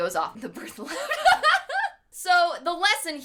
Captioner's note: laughing